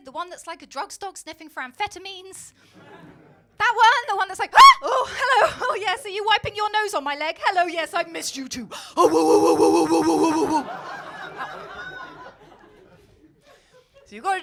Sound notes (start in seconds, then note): 2.8 crowd laughing; 4.5 screaming; 9.1 barking; 11.5 crowd laughing